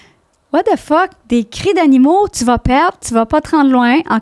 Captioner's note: in french